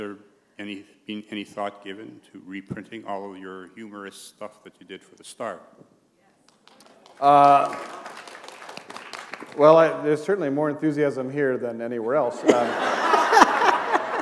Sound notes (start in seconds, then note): 6.5 applause; 12.4 laughter